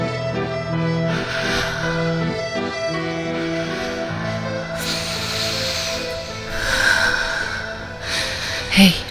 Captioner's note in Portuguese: respiração